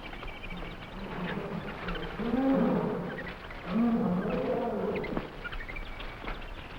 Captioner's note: animals chattering; gorillas groaning